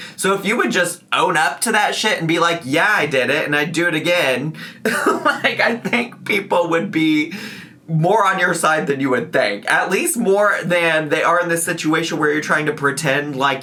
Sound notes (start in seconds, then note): 4.8 laughs